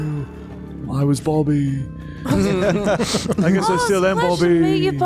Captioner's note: laughter